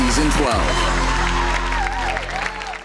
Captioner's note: crowd cheering